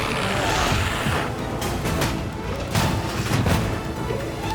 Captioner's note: glowzies growling